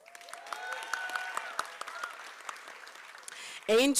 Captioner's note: applause